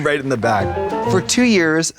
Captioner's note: bright chime